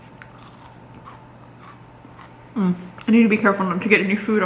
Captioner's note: chip crunches